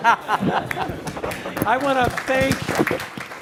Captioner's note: audience laughing; audience applauding